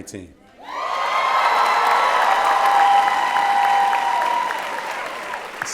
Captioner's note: applause and Cheering